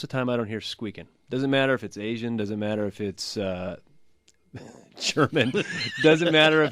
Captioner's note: laughs